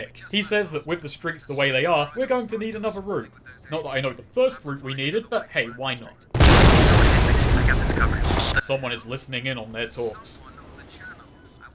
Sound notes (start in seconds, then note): 6.3 really loud explosion